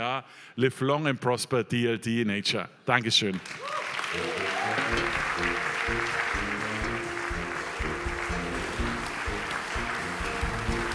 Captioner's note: applause